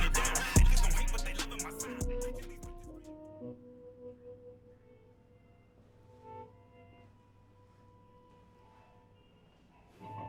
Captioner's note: TV in the background playing Santos movie